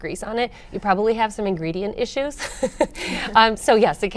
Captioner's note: laughs